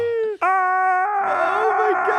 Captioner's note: yells